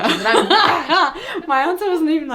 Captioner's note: both laughing